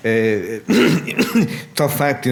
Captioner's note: clearing throat